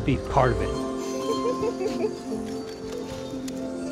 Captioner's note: laughs